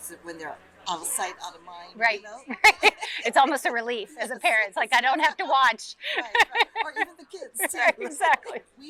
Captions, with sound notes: when they're outta sight outta mind, you know? Right, right. (laughs) It's almost a relief as a parent. It's like, I don't have to watch. (laughs) Right. Or even the kids too. Right, exactly.